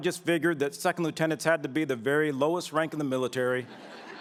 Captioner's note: laughter